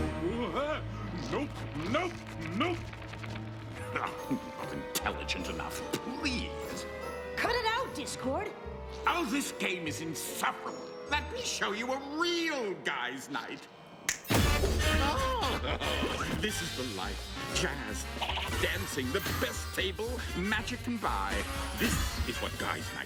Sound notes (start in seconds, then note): 14.0 snaps fingers; 14.4 jazz music playing